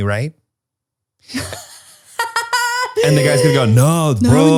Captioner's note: laughs